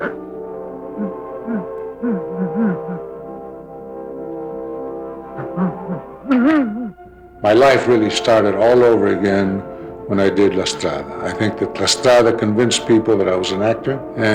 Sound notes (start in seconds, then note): 5.3 crying